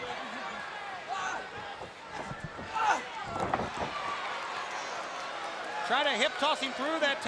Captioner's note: crowd chatter